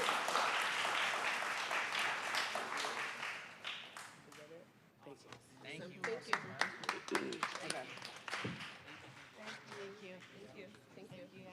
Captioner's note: applause